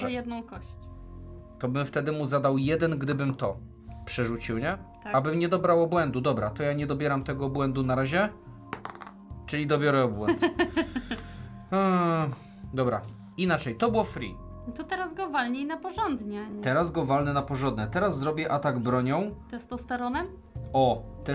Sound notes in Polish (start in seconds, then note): 10.2 śmiech